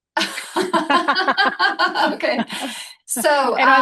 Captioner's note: laughing